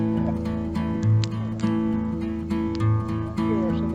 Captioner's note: sound of crackling campfire